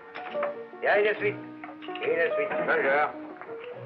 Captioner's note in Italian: lingua francese